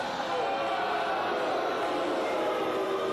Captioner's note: fans chanting